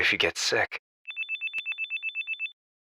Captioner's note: phone incoming